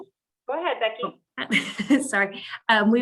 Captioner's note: laughing